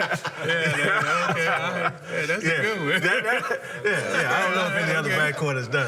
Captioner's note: laughter